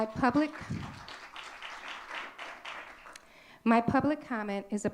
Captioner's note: audience clapping